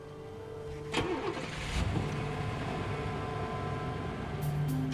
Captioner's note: engine turns over